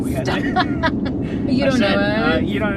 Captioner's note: laughs